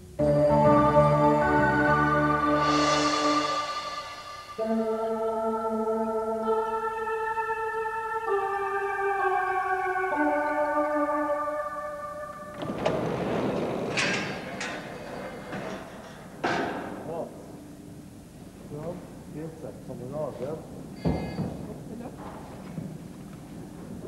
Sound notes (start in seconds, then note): 12.4 cableway door opens; 16.5 chatter in background